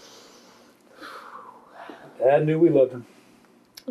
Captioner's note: sighs